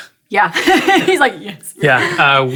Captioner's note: laugh